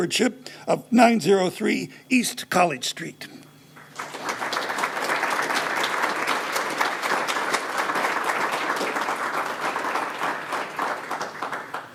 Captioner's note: applause